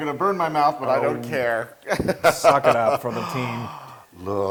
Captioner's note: laugh